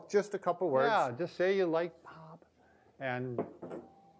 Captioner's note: whispers